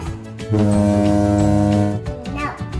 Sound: horn blows

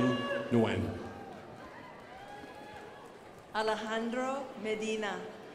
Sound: crowd applauding

